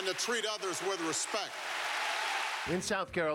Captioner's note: applause